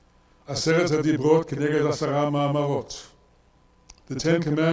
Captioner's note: speaks in foreign language